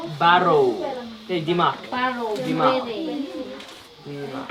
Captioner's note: foreign language